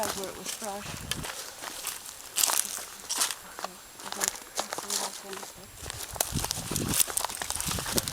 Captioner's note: crunching sounds walking